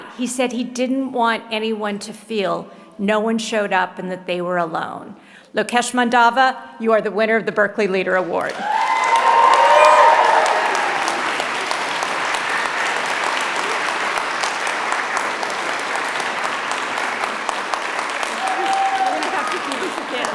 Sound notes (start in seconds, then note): 8.6 applause